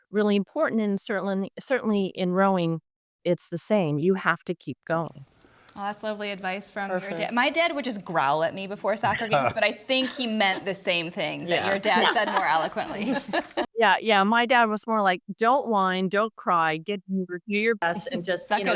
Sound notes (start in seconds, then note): 9.0 laughs; 11.5 group laughs; 16.2 audio distorts